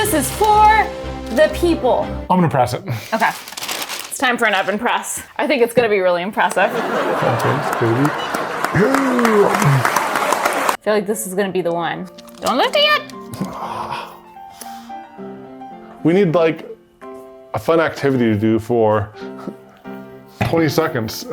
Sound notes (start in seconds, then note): 6.5 people laughing and clapping; 14.7 bright music